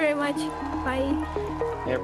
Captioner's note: cheers, applause